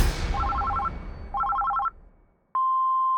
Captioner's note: phone beeping; phone ringing